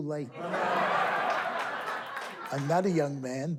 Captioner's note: laughing